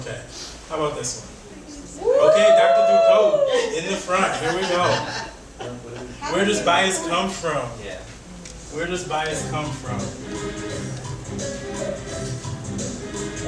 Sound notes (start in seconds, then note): 2.0 audience cheering; 4.1 audience laughing; 9.4 quirky music